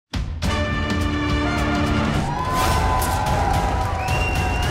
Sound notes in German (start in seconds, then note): 0.4 Flotte Bigbandmusik; 2.0 Jubel